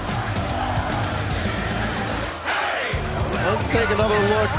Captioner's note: fans chanting